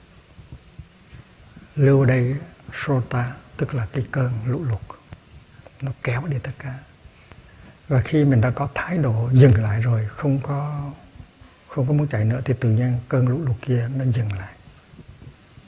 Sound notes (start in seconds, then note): 3.2 in Sankrit